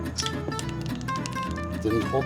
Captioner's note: nut clatters